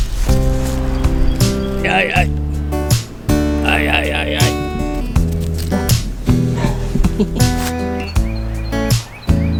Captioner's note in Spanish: haciendo voces raras